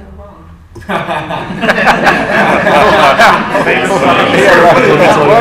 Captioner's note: laughter